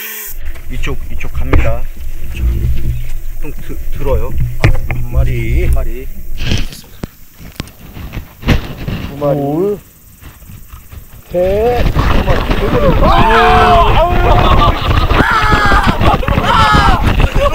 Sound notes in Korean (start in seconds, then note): 15.1 비명